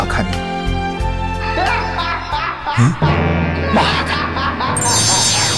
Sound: sarcastic laughter

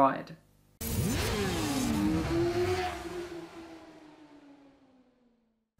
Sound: motorcycle engine roaring

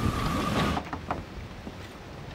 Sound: knocking

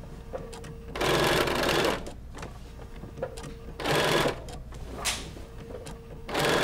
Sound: sewing machine efficiently whirring

